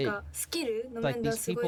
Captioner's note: speaking in foreign language